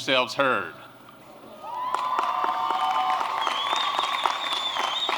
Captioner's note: applause